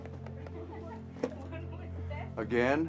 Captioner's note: speaker laughs